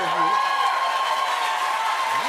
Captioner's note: cheers and applause